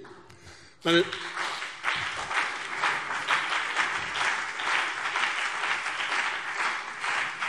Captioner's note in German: Beifall BÜNDNIS 90/DIE GRÜNEN und vereinzelt CDU - Zuruf SPD: Parolen!